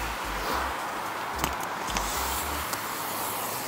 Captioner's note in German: none